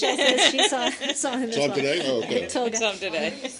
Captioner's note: laughter